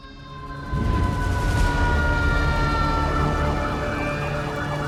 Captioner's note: sirens